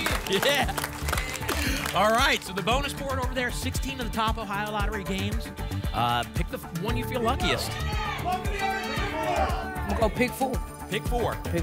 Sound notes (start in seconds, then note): 7.4 audience shouting games